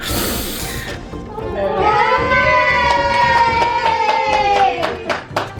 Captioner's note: applause and cheers